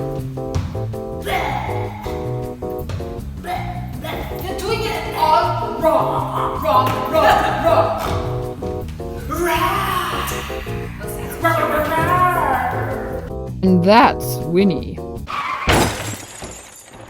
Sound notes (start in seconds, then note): 5.6 laughing, snorting; 15.3 car screeching to a crash